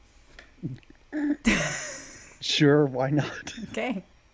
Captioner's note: laughs